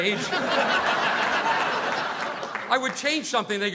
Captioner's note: audience laughing